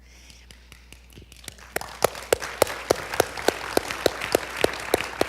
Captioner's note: audience applauding